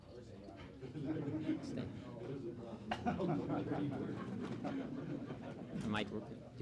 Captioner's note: reporters and guests chuckling